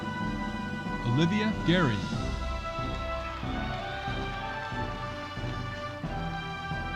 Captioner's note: audience applauding